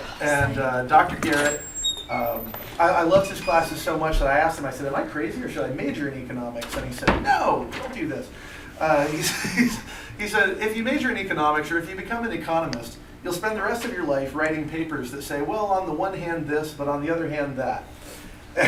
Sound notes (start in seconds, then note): 9.1 laughter